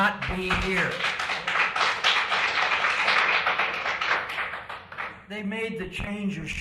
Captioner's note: applause